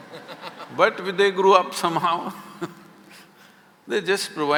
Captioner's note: laughter; laughs